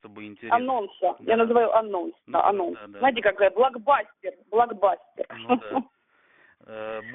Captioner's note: happily